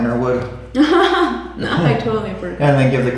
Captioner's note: laughs